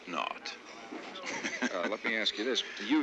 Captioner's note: chuckles